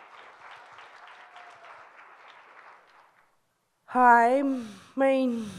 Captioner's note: audience applauds